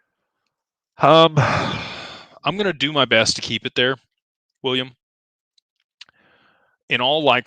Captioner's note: sighs and gasps